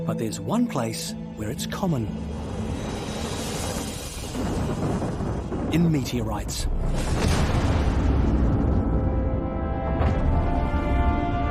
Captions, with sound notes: But there's one place where it's common. (dramatic music) In meteorites. (explosion booms)